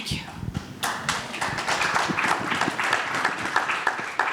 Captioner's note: audience applauds